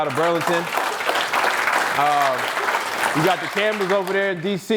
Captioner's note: audience applauds